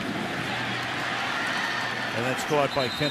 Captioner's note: cheering